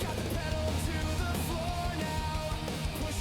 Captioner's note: vehicle driving